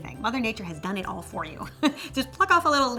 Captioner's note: chuckles